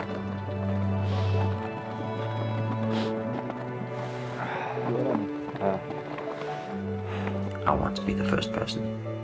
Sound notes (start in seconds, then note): 2.8 sniffling softly